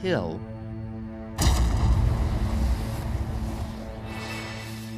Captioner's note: crash